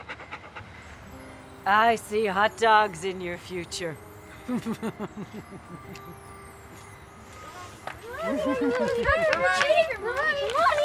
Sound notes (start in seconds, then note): 4.4 laughs